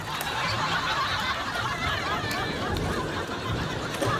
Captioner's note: laughter